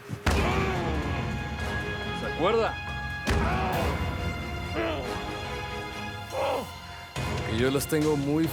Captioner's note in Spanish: Gemidos de Alejandro